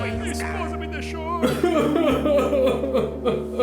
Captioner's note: crying sounds